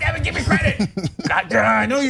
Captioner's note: laugh